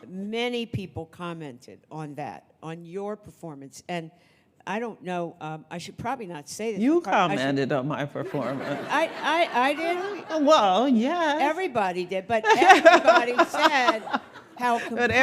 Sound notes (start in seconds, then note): 8.3 audience laughing